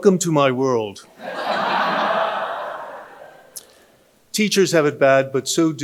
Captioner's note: audience laughing